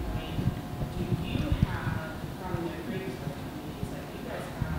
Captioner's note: faintly speaking